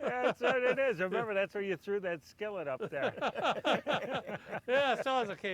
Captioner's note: laughs